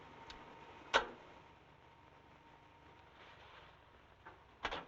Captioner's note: machine Clicks Off